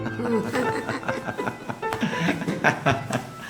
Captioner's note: both laughing